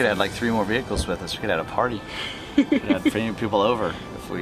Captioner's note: laughs